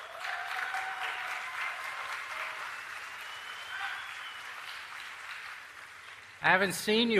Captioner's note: applause & Cheers